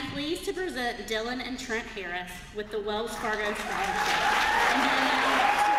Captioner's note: applause